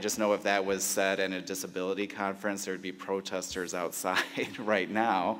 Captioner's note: laughs